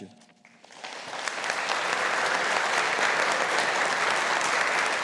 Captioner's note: audience applauding